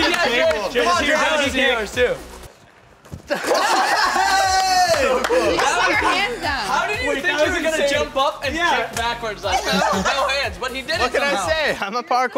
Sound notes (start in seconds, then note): 0.0 laughs; 3.3 laughs; 9.4 laughs